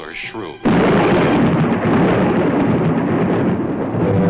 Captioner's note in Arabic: تصفيق الرعد